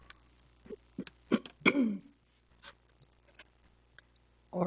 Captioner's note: clears throat